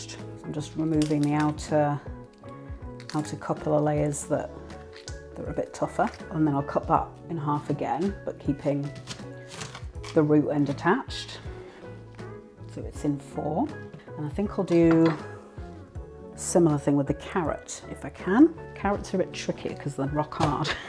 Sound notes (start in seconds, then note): 13.3 chopping thunk; 20.3 chopping thunk